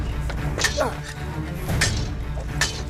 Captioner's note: swords clash